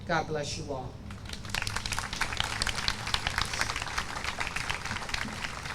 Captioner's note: audience applauds